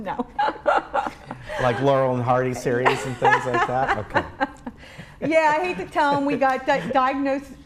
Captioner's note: laughing